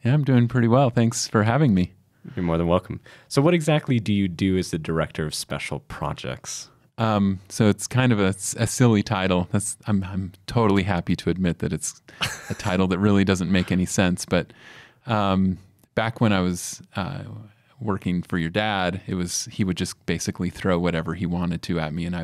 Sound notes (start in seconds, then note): 12.2 giggles